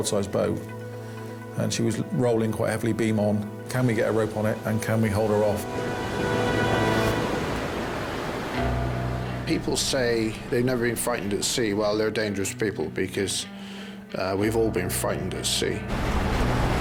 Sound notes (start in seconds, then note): 6.7 dramatic music; 6.7 water sloshing